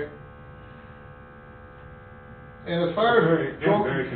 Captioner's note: machine humming